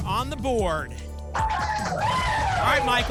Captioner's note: applause and cheering